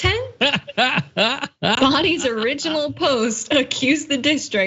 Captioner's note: laugh